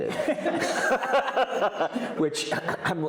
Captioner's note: all laughing